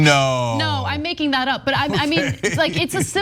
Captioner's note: laugh